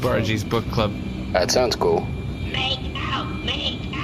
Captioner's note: chanting